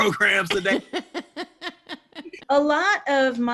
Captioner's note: woman laughing